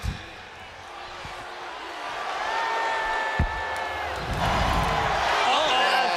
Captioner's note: crowd cheering